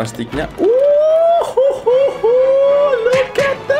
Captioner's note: cheering